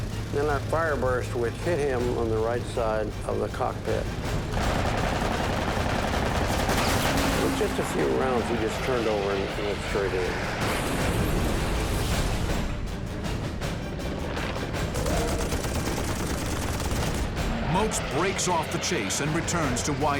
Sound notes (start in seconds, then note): 4.5 gunfire; 10.7 boom; 14.8 gunfire